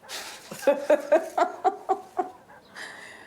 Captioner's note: laugh